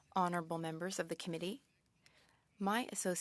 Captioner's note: speaking French